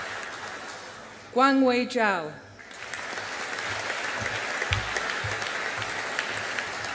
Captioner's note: audience applauding